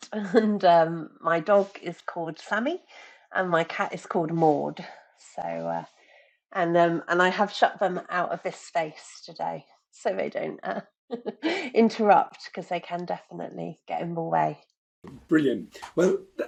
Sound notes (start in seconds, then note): 11.5 chuckling